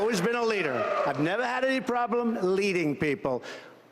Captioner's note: cheers and applause